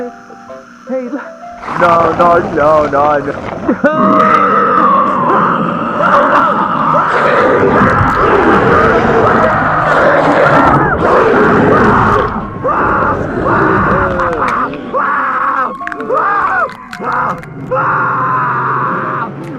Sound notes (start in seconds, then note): 1.5 wendigo snarls; 4.1 punks scream, gore sounds